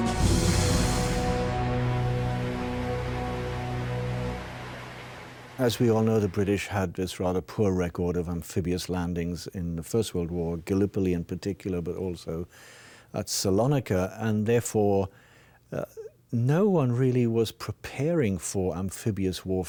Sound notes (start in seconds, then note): 2.0 water splashing